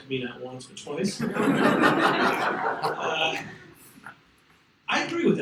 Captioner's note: audience laughs